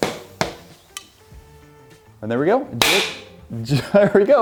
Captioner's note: air popping; air popping